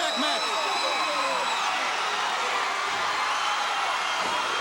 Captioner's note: crowd cheering